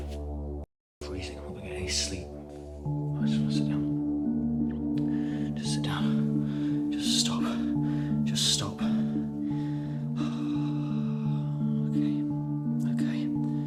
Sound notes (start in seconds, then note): 10.3 heavy breathing